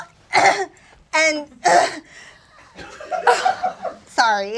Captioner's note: clears throat repeatedly